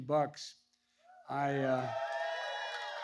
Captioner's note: applause